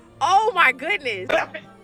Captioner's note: voiceover, screaming: "Don't just stand there!"